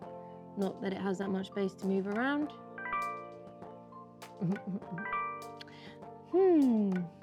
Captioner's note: notification sound